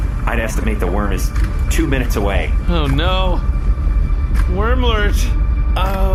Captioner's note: terrified